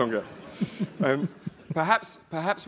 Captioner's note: laugh